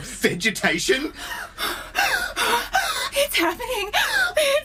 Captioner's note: Aurelia starts to hyperventilate with excitement